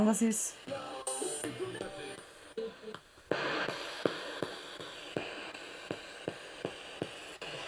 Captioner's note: sound of the Spirit Box in the background